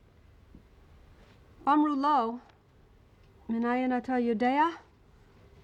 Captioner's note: reading in hebrew